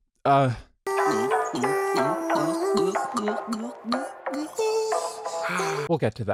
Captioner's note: cartoonish glug glug sound that goes way longer than it should